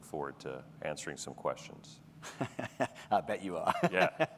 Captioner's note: laughs